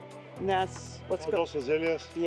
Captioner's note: speaking in foreign language